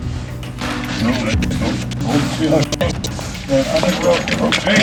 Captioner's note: men chattering